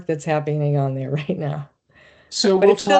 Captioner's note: chuckling